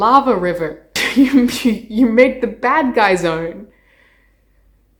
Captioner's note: laughing